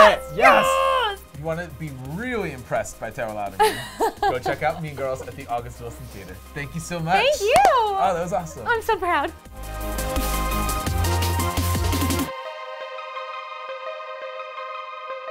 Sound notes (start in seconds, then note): 3.6 laughs; 9.9 upbeat music